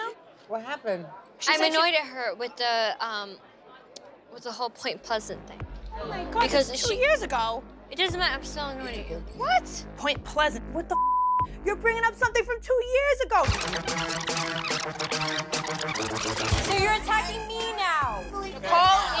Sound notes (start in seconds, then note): 10.9 beep